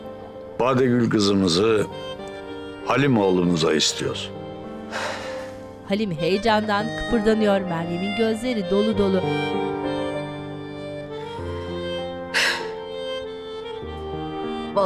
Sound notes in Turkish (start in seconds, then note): 4.8 Nefes sesi